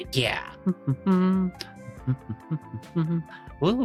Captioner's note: humming